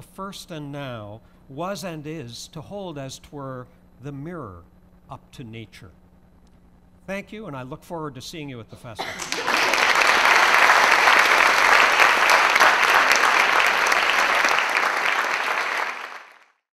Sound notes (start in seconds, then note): 12.6 applause